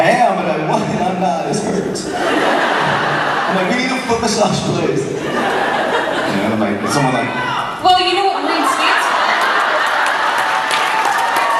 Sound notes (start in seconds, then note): 0.0 crowd laughs; 6.9 fan screams from crowd "my room"; 8.2 crowd laughs